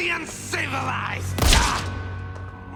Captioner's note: bang